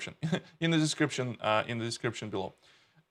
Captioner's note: giggles